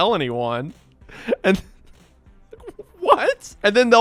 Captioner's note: laughing